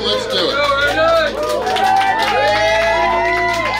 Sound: cheering & Clapping

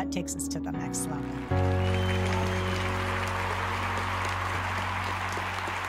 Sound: audience applauds

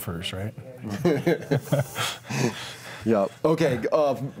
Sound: laughing

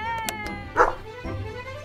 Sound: clapperboard snapping; dog barking

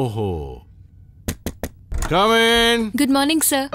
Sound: knocking

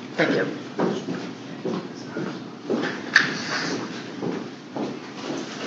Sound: footsteps, murmur of people

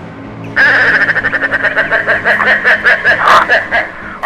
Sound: bird Sounds

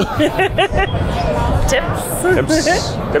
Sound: laughs

